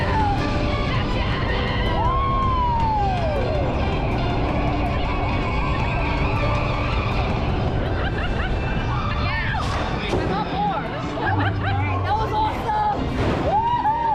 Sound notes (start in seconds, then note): 7.0 screams; 12.9 laughter